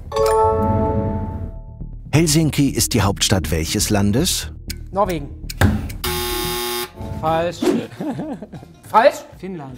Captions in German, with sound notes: Norwegen. Falsch. (Lachen) Falsch? - Finnland.